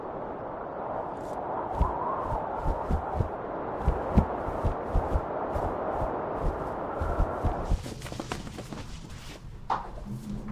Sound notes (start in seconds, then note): 4.4 shirt flapping continues; 4.4 wind whistling continues; 6.4 clothes rustling